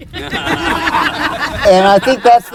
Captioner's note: laughter